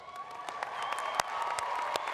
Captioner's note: applause